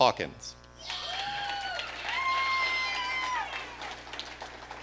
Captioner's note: audience cheering